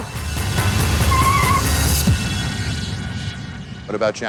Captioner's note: tires squeal